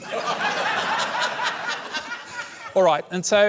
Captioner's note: laughter